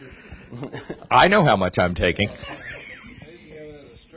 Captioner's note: laughs